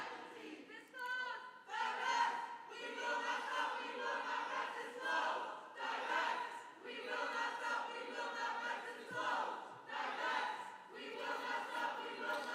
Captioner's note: chanting